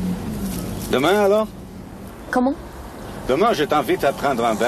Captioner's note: they speak French